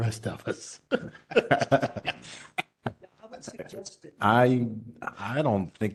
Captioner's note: laugh